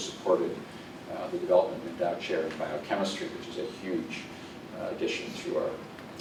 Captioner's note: distortion